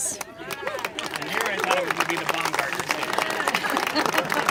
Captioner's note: congregation applaud